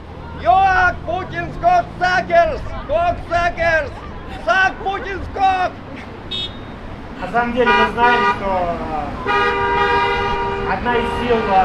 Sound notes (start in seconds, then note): 7.4 supporting honks